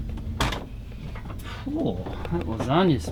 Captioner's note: door thumps